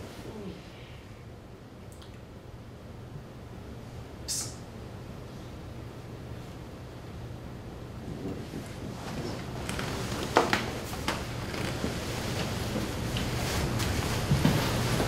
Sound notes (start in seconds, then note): 1.5 Gary yawns